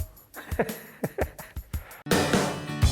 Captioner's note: laughs; upbeat music